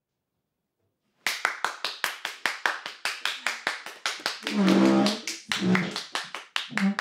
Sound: bartender Claps

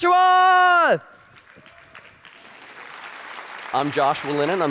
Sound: audience applauding

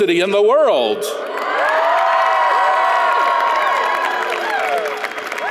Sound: audience applauds

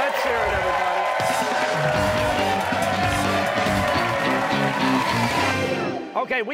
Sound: cheers and applause

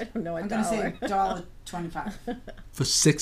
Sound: voiceover

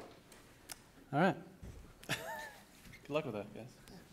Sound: chuckle

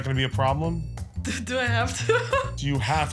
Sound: laughing

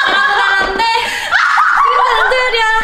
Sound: cracking up

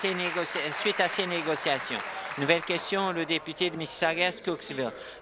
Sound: applause

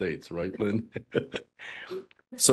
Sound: laughing

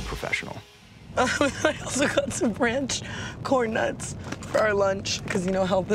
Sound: laughing

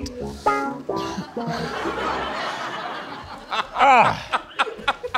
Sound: audience laughing

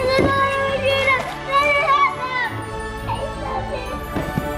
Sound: exclaiming excitedly

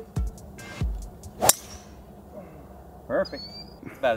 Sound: golf club pings

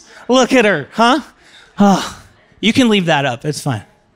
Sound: sighs

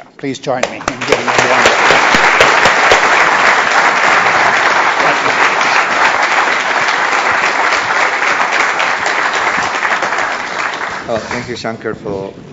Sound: applause

